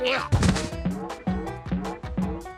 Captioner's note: pumpkin boinging